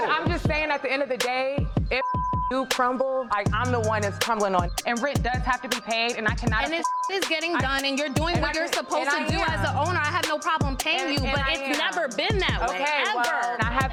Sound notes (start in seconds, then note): 1.9 beeps; 5.4 beeps